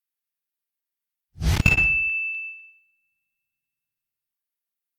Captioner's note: bell dings